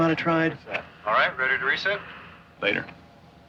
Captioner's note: man On Radio